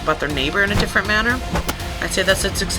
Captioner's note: bat thuds